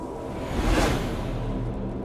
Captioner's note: whoosh